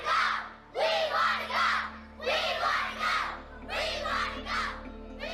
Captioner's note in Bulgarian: скандиране